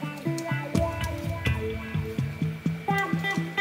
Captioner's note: cracking